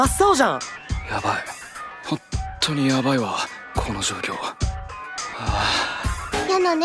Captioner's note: sigh